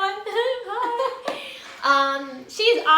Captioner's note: laughs